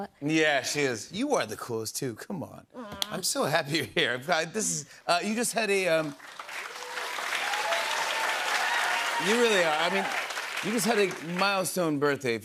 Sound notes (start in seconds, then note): 6.0 cheers and applause